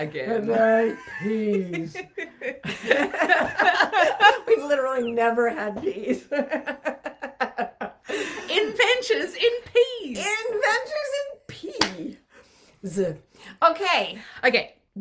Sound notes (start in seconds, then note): 2.4 laughing